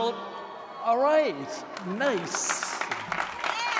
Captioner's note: grads cheering; audience applauding